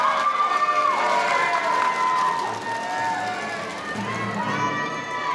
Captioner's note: audience applauding; audience cheering